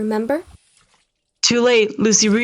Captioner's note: sponge drops